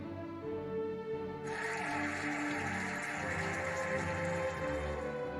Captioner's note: cheering and applauding